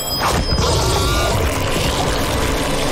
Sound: screeching

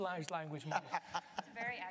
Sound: laughter

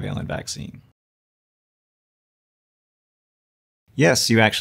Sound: silence

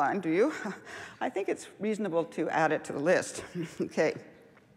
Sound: laughs

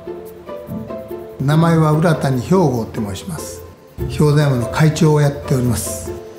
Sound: pleasant orchestral music; speaking in foreign language

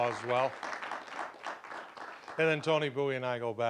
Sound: applause

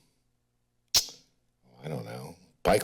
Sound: smacks lips

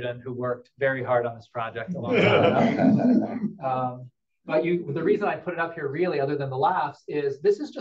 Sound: laughter

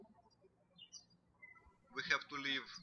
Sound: birds chirping

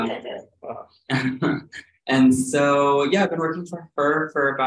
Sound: chuckles

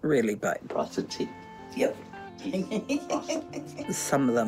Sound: giggles

